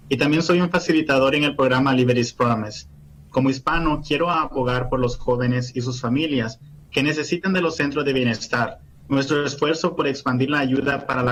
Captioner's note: speaking foreign language